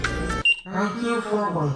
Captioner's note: elevator beep